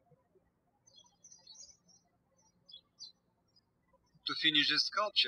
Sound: birds chirping

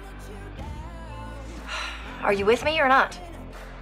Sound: sighs

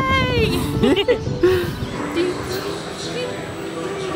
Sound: laughing

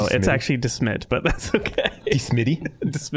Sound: laughing

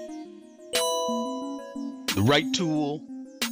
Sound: bright music; bell dinging

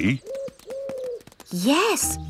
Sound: owl hooting

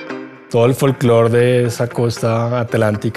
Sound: groovy electronic music; speaking foreign language

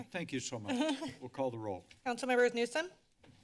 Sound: laughs

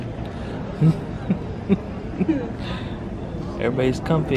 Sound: chuckling

